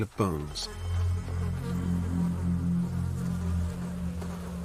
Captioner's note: buzzing flies